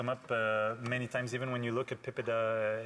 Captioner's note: speaking French